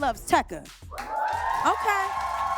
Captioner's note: audience applauds